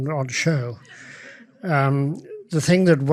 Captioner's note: audience laughs